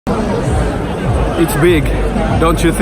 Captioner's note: crowd talking loudly